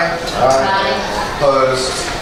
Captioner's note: A chorus of ayes